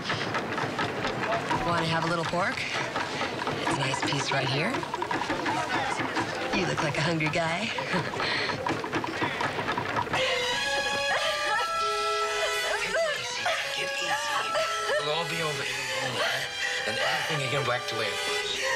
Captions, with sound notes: Ah, hey big guy. Come on. You wanna have a little pork? It's a nice piece right here. You look like a hungry guy. [chuckles] [whimpers] Take it easy, take it easy. It'll all be over in a moment.